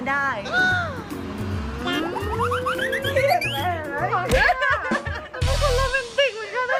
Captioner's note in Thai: เสียงหัวเราะ